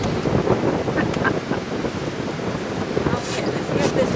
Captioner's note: chuckles